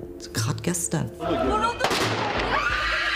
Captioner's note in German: Schuss, Schreie